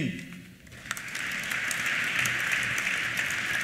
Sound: applause

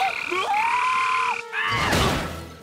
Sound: screaming

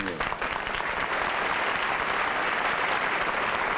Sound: applause

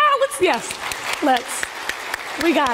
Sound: congregation applauding

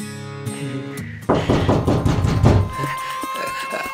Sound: door banging sound

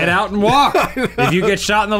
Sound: laughing

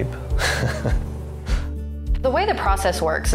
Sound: laughs

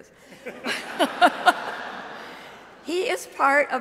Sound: audience laughing

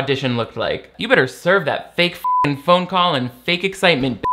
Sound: beep

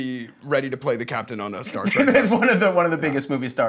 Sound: laughing

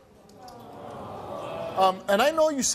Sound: audience awws

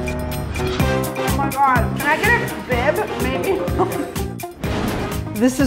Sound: laughs

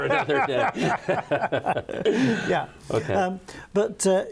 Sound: laughs

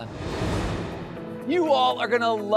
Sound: graphics whooshing

